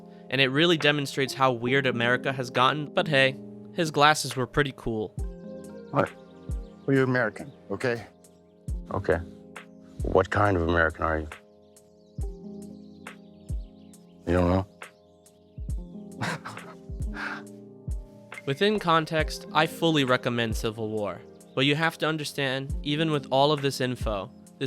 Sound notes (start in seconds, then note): 16.2 Plemons: Laughing passive aggressively